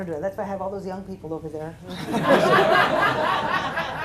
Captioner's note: laughter